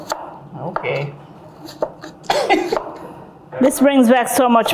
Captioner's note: laughs